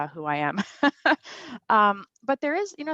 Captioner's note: laughs